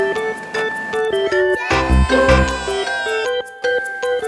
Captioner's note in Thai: ร้องดีใจ